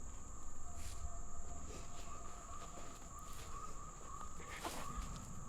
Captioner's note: animals whooping and chattering